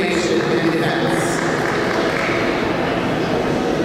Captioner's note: clapping